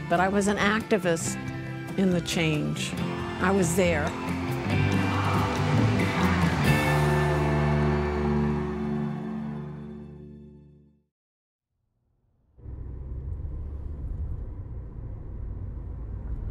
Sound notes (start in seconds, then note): 3.9 crowd chanting; 12.6 car engine rumbling